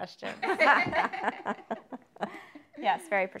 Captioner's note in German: Alle lachen